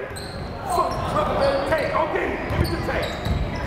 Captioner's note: yelling